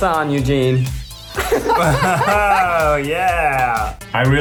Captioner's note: laughs